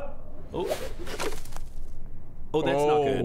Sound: knotless rope goes thud

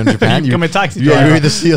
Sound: laughing

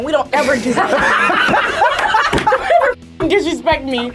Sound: group laughs

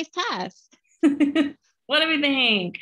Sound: laughter

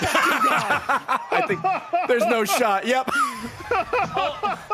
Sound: laughs

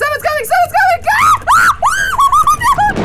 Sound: screams; thunder sound

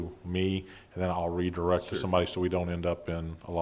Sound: laughing

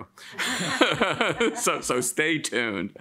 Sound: laughs

